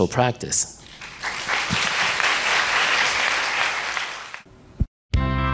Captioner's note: audience applause